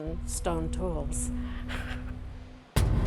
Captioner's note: chuckles; thuds